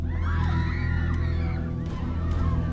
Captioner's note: screaming